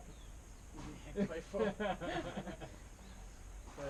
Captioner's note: all laughing